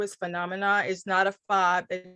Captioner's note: radio interference drowns out speaker